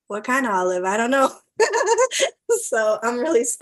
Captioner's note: laughs